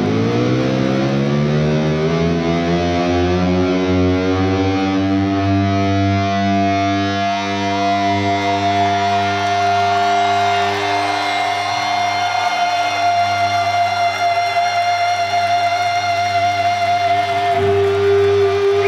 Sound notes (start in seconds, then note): 7.4 upbeat rock music; 8.0 crowd cheering